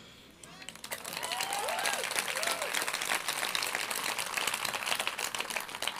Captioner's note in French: Applaudissements